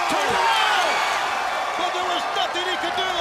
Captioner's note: crowd cheering